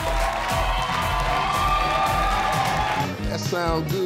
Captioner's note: audience cheers